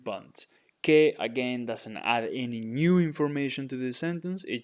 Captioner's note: speaking in Spanish